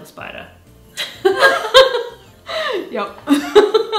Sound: both laughing

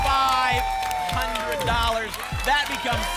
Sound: applause and cheering

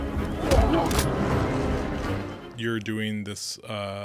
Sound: horse neighing; body thumping; person grunting

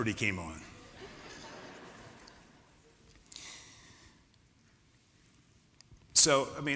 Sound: laughter

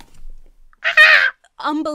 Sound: screams

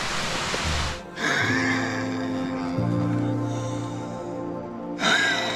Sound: coughing deeply; coughing and wheezing

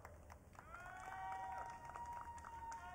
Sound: audience cheering

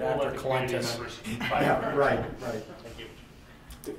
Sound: laughter

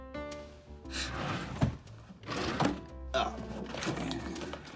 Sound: scoffs

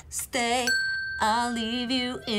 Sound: bell dinging

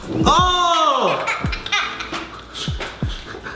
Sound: kids laugh

